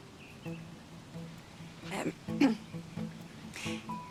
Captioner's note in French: s'éclaircit la gorge